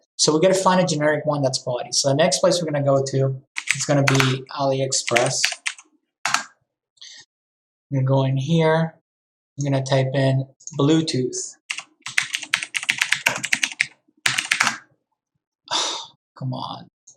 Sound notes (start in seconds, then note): 3.6 keyboard clicking; 11.8 keyboard clicking; 15.7 sighs